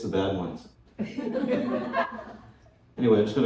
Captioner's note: laughter